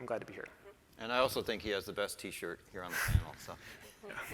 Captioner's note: laughs